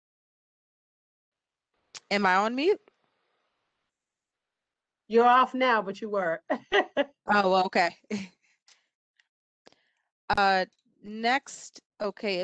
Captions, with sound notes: - Am I on mute? - You're off now but you were [LAUGHTER]. - Okay.